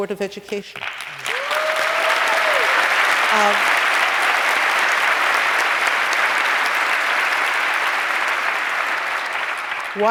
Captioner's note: applause